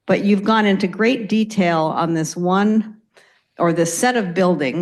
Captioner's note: none